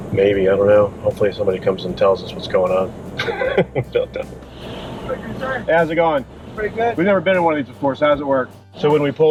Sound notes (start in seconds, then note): 3.2 laughing